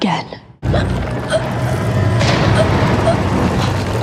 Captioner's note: Eleven gasping